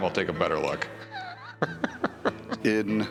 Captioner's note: laughs